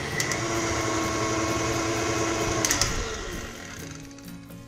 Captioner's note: machine whirring